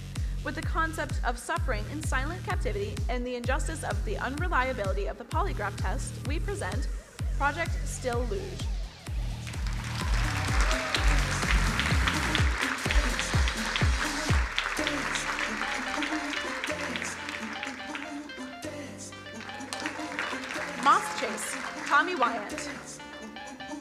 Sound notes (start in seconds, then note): 9.1 crowd applauding; 9.1 upbeat music